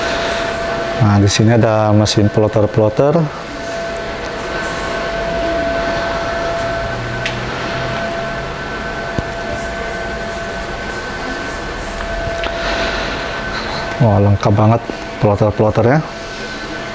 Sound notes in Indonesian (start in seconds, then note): 3.4 suara mesin; 12.3 menghela nafas; 16.7 suara mesin